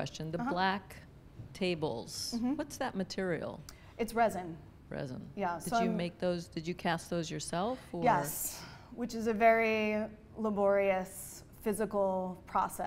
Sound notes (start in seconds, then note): 4.9 voiceover